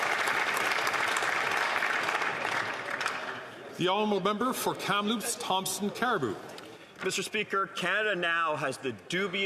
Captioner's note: applause